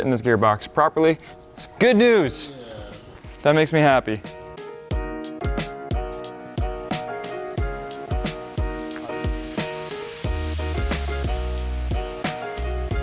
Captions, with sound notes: in this gearbox properly. Good news! That makes me happy. (air hissing) (upbeat music)